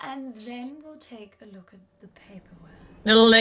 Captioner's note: Sketch audio plays